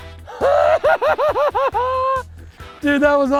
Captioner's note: laughing